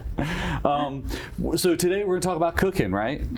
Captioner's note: chuckles